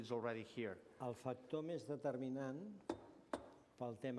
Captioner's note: non-english speech